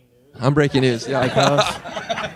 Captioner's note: laughing